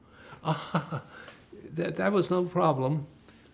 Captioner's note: laughing